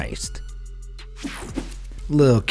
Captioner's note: air whooshing